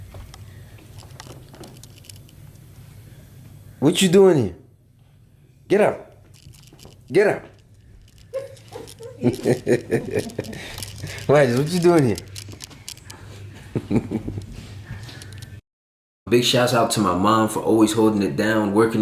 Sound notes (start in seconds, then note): 8.3 laughs; 14.1 laughs